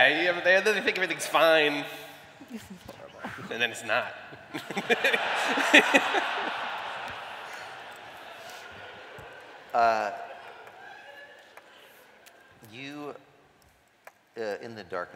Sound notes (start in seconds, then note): 7.3 laughter